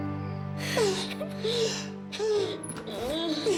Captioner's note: sobbing